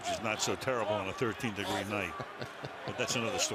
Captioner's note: laughter